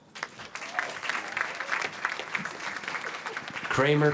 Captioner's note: applause